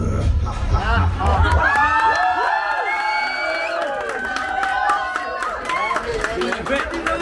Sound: applause

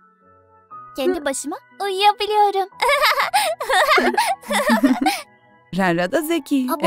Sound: laughing

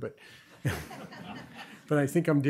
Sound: laughter

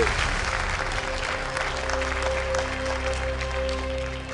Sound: audience applauding

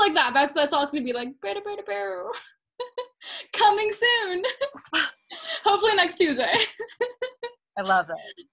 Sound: funny noise

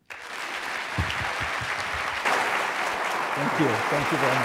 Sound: audience clapping

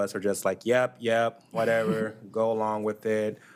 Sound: attendee chuckles

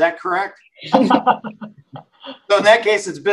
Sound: laughing

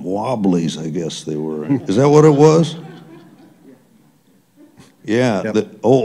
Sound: laughter

